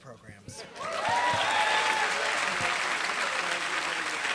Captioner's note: applause